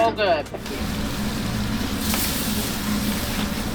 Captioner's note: sound of food sizzling